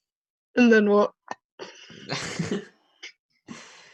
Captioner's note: laughs